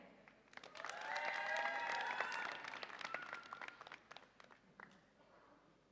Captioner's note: audience applauds and cheers